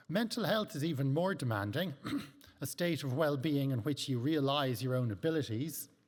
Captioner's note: clears throat